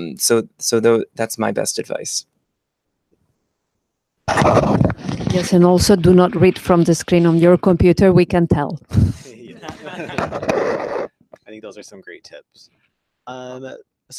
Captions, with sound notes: So, that's my best advice. - Yes, and also do not read from the screen on your computer we can tell. (laughter) - I think those are some great tips.